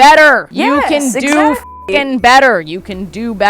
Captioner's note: beep